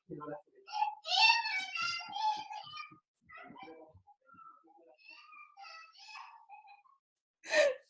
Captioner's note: child screaming and crying continues and grows softer; laughing